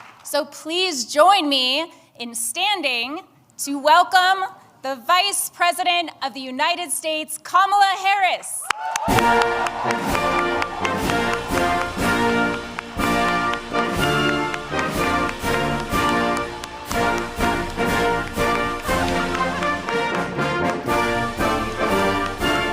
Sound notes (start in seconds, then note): 0.0 applause; 10.1 applause; 12.8 patriotic Music